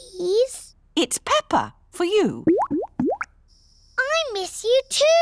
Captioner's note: bubbling